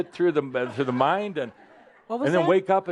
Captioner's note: some chuckles